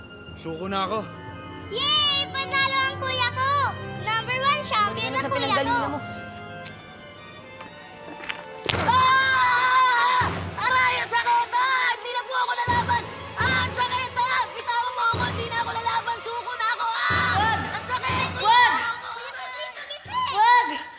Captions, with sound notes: I surrender. Yay! My brother won! -He's number one! -Go back to where you came from. [screaming] Ouch! That hurts! I surrender! Ouch! Let go of me! I won't fight you! I surrender! No! No! -Bro, wake up. -No!